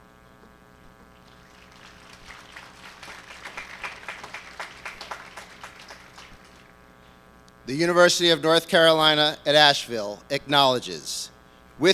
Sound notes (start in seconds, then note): 1.2 applause